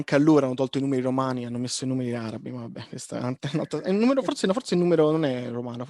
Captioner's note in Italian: more mumbling about numbers